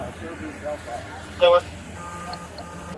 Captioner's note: radio chatter